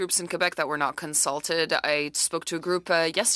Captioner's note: speaking French